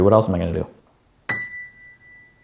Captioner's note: ding